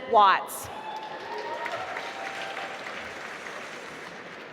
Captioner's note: applause